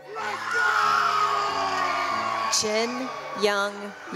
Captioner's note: cheering